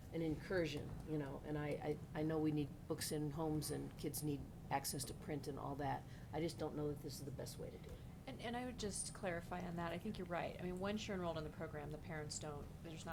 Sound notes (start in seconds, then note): none